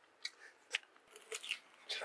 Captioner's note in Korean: 아삭